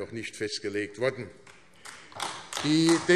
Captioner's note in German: Beifall AfD